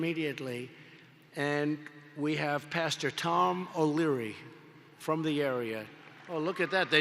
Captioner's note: applause